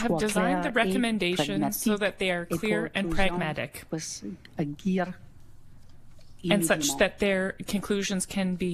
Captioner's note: speaking French